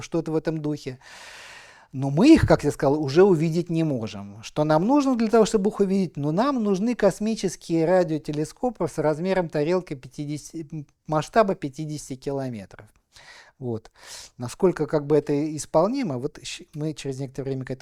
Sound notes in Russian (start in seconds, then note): 2.3 вздыхает; 2.3 тяжело вздыхает